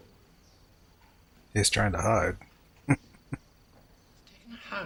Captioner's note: chuckling